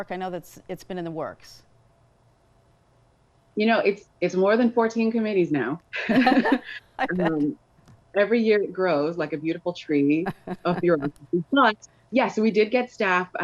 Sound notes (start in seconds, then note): 6.0 both laugh; 10.2 laughs